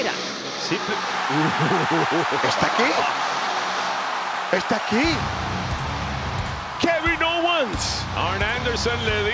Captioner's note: laugh